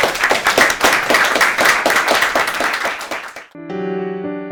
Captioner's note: applause